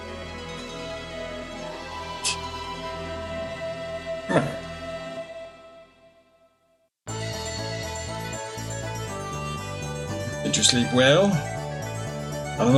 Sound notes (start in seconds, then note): 2.2 laughs softly